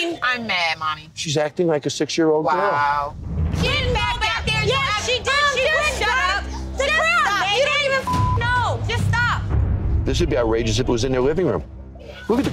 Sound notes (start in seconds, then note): 3.6 women arguing